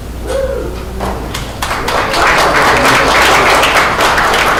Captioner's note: audience applauds